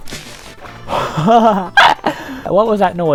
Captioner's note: wide laugh, voice crack